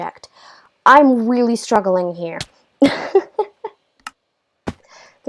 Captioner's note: laugh